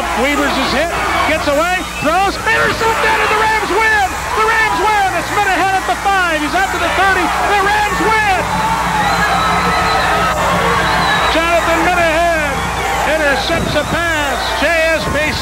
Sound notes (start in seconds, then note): 8.7 crowd cheers